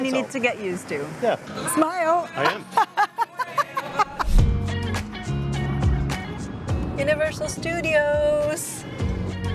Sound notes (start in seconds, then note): 2.4 laughs